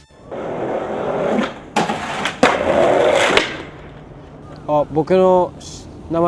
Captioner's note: skateboard wheels roaring; speaking in foreign language